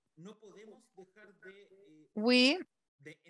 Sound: speaking foreign language

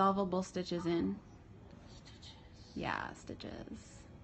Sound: whispers

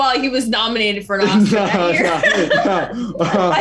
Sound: laughing

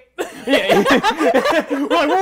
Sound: group laughing; chuckles

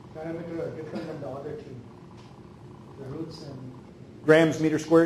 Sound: speaking off microphone

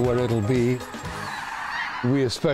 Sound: cranes calling

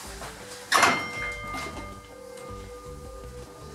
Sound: tram bell sounds

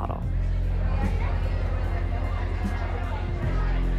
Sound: crowd chattering

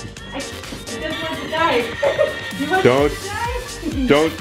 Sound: murmurs

